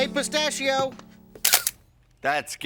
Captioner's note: camera flashing